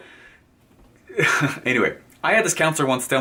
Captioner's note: chuckles